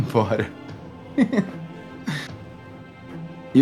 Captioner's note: laughs